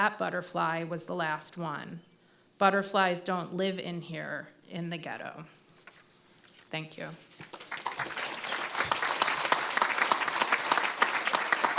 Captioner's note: applause